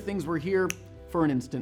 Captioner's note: snap